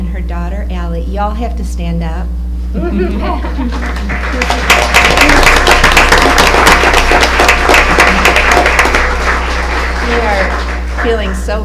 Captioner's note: applause